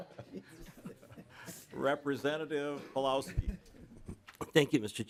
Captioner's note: laughter